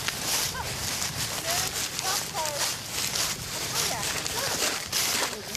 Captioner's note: indistinct chatter